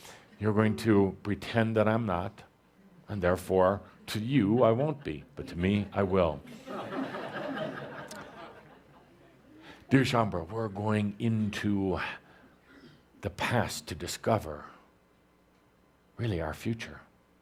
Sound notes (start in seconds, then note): 7.1 laughter